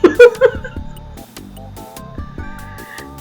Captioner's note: laughter in Mexican